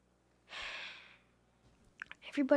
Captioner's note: sighs